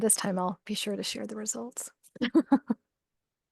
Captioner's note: laughs